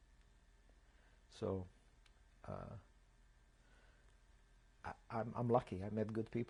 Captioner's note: pauses for 3 seconds